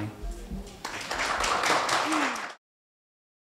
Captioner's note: applauding